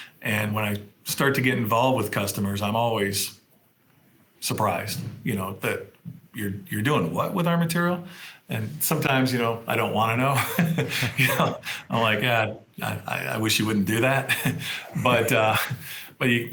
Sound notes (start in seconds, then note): 10.3 chuckles; 13.8 laughs